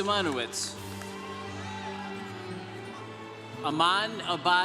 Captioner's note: congregation cheering